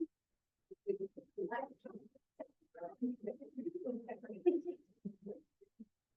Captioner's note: audience members chattering